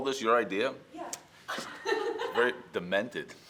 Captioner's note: laughs